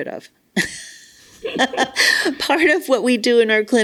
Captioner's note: both laugh